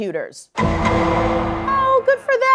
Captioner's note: "Law & Order" sound effect